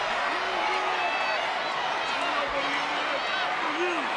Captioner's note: crowd shouts